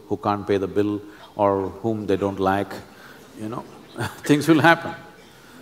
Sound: laughs

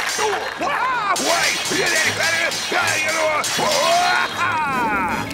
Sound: sword fighting; yelling

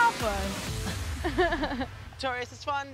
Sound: laughing

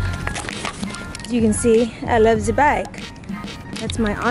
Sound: German accent

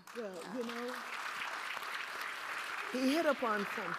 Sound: audience applauding

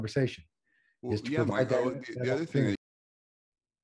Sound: talks in chorus

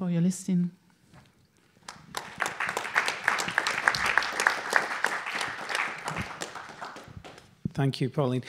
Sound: applause

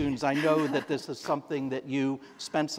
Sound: chuckle

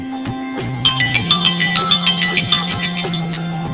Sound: phone rings

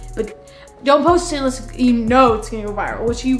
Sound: none

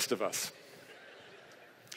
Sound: laughter

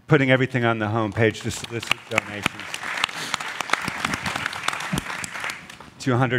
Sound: applause

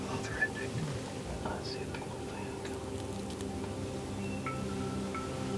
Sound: whispering

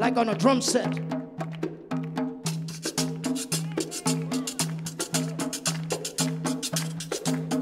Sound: upbeat music continues; audience claps

